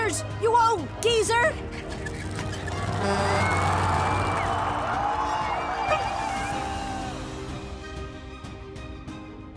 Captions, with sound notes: You old geezer! (chair wheels squeaking) (truck horn honks) (crowd cheering)